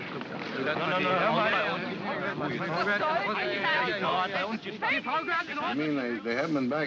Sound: indistinct chatter & arguing

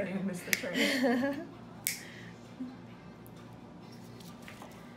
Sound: chuckles

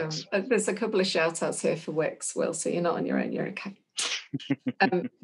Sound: laughs

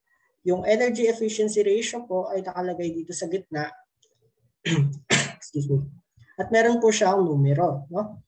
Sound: coughs

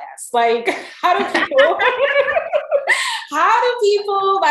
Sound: all laughing

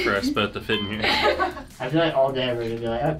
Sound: others laughing

